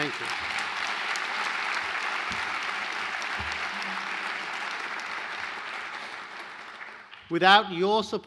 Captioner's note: applause